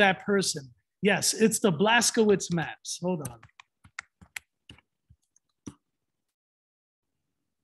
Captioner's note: typing noises